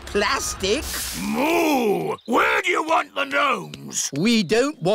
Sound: boos

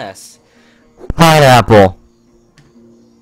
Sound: earrape

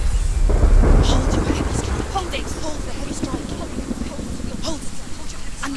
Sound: whisper; thunderclap

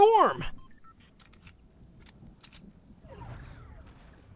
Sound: gun reloading

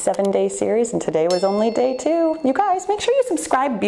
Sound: bell rings

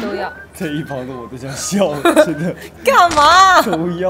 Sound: hahahahahaha

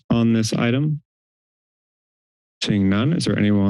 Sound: silence

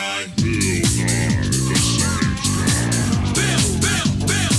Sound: deep Voice

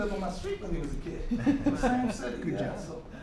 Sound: laughter

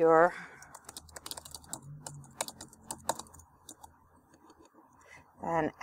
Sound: typing

